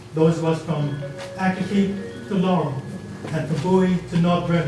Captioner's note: phone rings